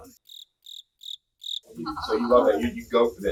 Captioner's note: crickets